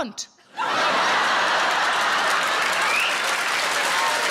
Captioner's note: audience laughs